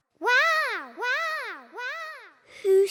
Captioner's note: peppa's voice echoes around mountains